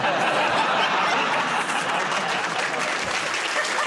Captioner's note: laughter; applause